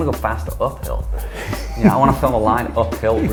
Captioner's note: laughs